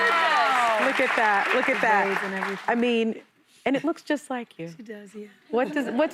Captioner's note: applause